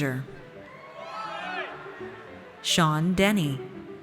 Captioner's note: audience cheers